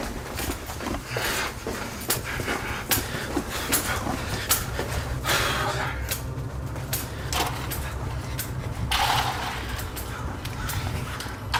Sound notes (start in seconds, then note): 1.1 breathes heavily; 5.6 tense music; 7.2 door opens